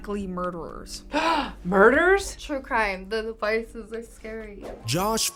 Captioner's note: gasps; voice-over